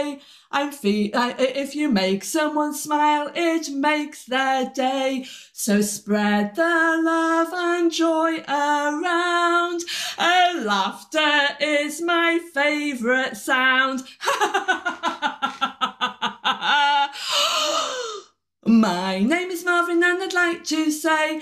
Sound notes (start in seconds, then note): 14.2 laughter; 17.1 gasp